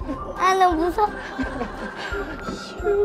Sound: laughing

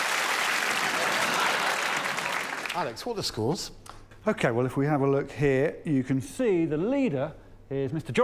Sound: applause

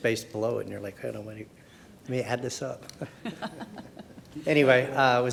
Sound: laughs

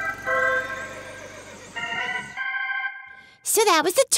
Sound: horse neighing

